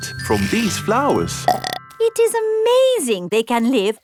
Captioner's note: burps